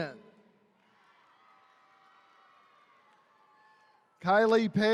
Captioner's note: attendees cheering